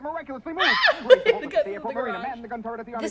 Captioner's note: screams